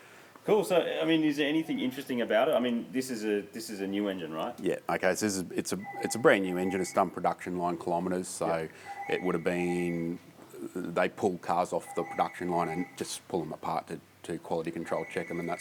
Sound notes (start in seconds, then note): 5.8 phone rings